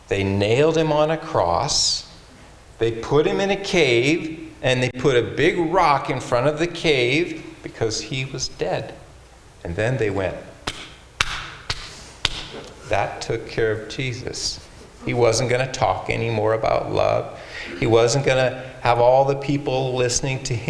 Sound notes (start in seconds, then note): 12.2 hand slapping